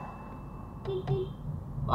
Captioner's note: beep beep